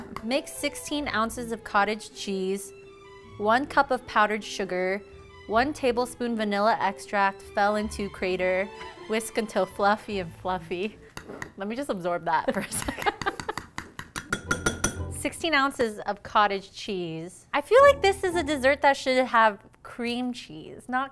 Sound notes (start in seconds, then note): 13.1 laughing; 13.2 spoon banging on bowl